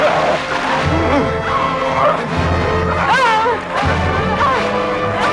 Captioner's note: man groaning; both grunting